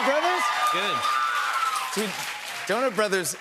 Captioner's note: cheers and applause